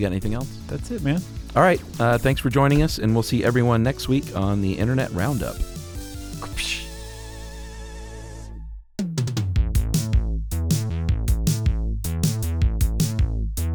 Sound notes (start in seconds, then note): 6.4 imitates whip; 11.3 upbeat synth music